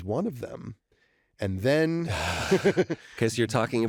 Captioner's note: laughter